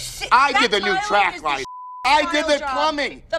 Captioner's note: beep